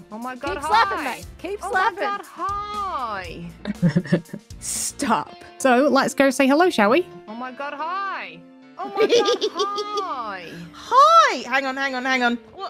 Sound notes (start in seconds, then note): 3.6 chuckles; 8.8 giggles